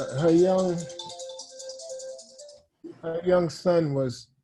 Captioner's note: phone rings